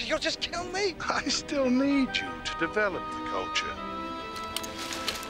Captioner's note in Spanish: riéndose